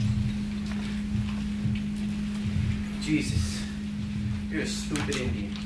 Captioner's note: none